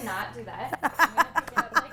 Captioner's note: laughs